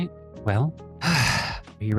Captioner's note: sigh